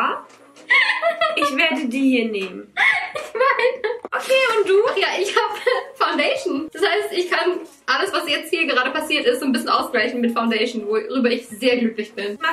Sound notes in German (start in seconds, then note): 2.7 lacht